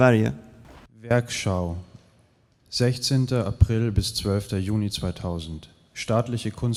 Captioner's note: speaker speaking in a foreign language